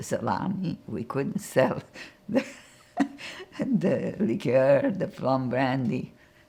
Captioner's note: laughing